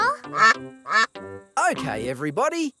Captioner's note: quacking